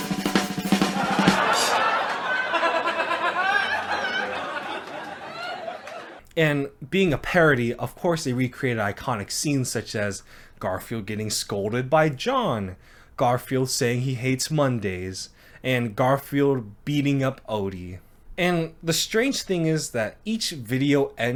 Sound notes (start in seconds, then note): 0.0 drums playing; 0.5 audience laughing